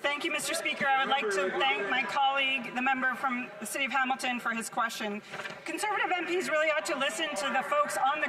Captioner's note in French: voix de l'interprète